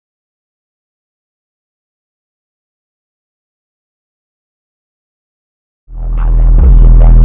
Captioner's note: collision